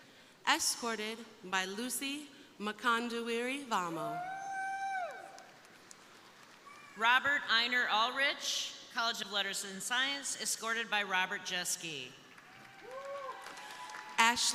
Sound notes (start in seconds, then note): 4.4 crowd cheering; 12.3 crowd applauding; 12.4 crowd cheering